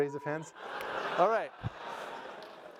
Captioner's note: crowd cheering